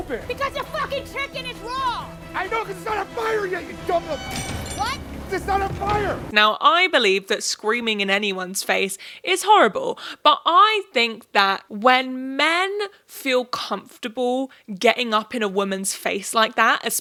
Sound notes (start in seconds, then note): 4.5 utensils clink